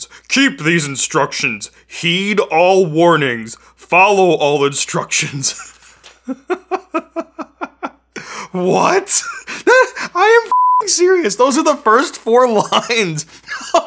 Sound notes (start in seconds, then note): 5.5 laughing; 10.5 beep